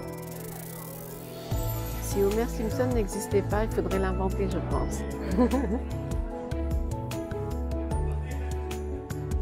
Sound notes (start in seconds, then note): 5.3 laughs